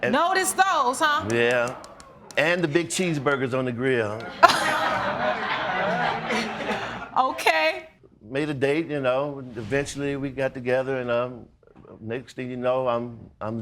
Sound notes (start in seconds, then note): 4.2 audience laughs